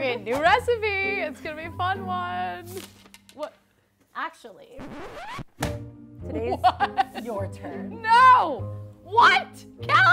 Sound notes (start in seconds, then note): 4.7 record scratching; 6.3 laughs